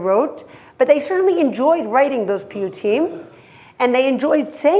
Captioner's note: hebrew